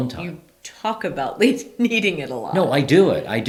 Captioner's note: laughs